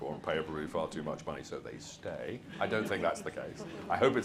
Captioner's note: audience laughs